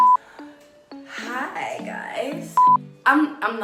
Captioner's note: beeps